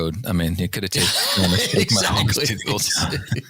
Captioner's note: laughter